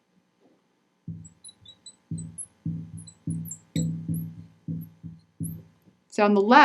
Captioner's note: marker knocking; marker scratching